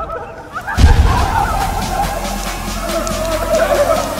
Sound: bomb exploding

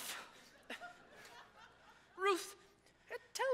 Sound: audience chuckles

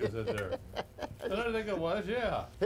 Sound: laughing

